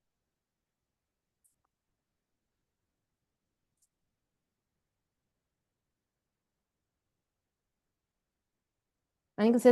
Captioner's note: silence